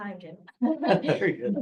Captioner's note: chuckling